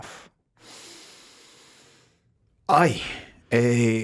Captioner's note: Jaime sighs